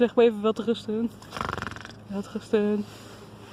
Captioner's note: is making a snoring sound